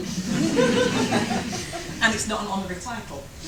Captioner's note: audience laughter